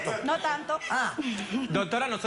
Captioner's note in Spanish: Risas